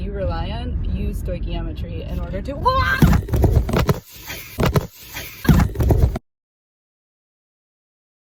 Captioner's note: car crush